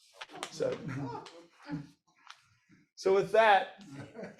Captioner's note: audience laughs